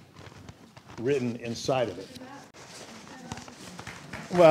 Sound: applause

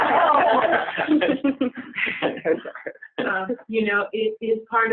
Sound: laughter

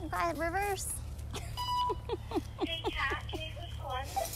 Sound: people talking

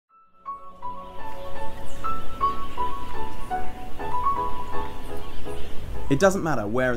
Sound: piano music begins; wind whirring

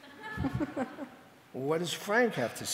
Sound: audience laughing

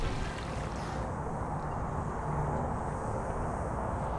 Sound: ambient traffic noise

